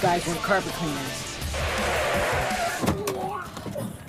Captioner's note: tires screeching